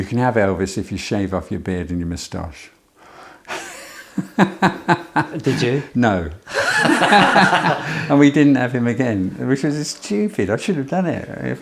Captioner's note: laughing